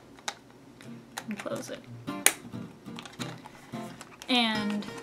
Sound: snap sound

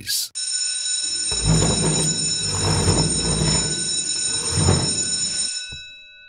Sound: bell Rings

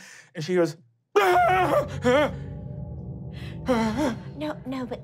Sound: screaming

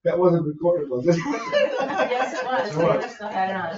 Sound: people laugh

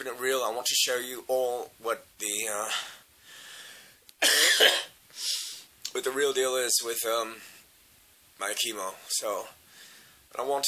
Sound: coughs

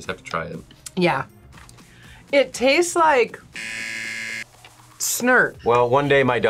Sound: buzzer

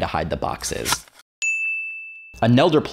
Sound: ding

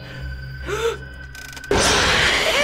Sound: gasps; in game: growl

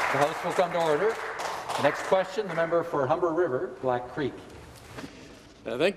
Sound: some Applause

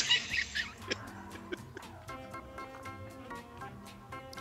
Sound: laughs

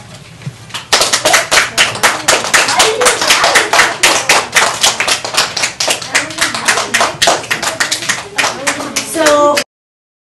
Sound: applause

